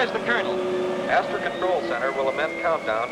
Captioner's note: man on PA